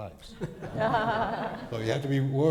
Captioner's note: crowd laughs